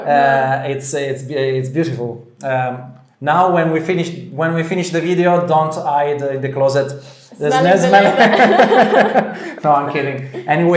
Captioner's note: laughter